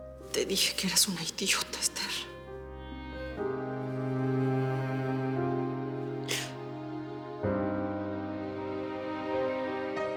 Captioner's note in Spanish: Solloza